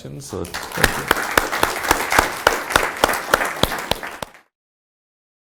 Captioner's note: applause